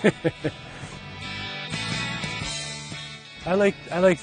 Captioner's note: laughing